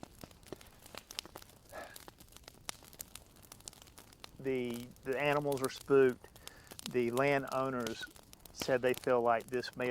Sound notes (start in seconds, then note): 1.7 sighs